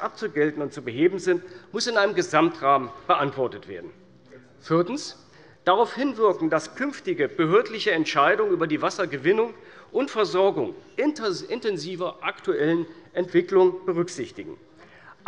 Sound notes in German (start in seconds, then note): none